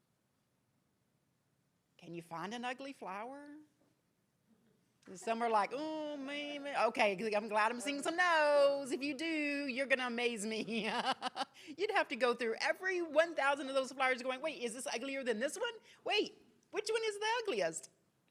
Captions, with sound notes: Can you find an ugly flower? Some are like, "Oh maybe." Okay, I'm glad I'm seeing some nos, if you do, you're gonna amaze me. (laughs) You'd have to go through every 1,000 of those flowers going, "Wait, is this uglier than this one? "Wait, which one is the ugliest?"